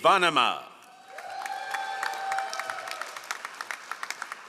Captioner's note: all applauding